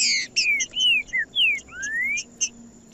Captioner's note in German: trinca ferro cantando